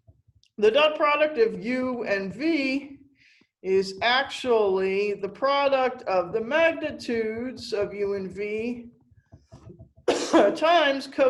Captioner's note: coughs